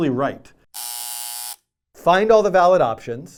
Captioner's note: buzzer